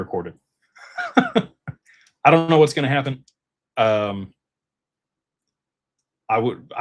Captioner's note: laughter